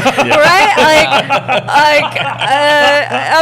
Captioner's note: laughter